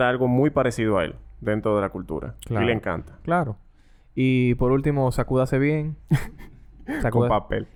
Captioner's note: laughs